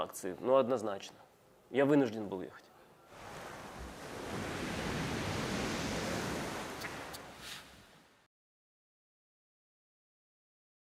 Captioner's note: speaking russian